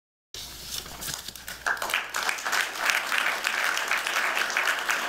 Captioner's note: applause